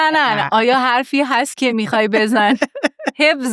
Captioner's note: laughs